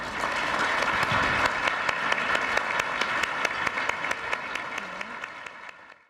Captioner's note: applause